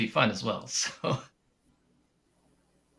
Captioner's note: chuckles